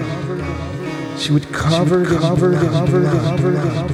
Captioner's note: echoing